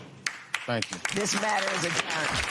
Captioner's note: applause